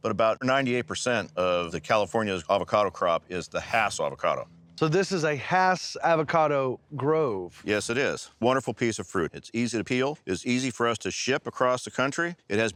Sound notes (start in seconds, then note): none